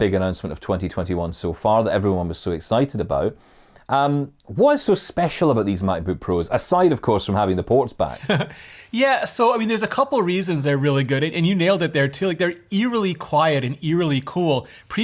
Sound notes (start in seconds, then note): 8.1 laughs